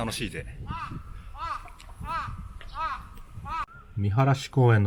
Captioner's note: crow cawing